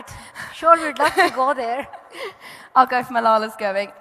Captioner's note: laughing